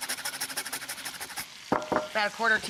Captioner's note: grater clinks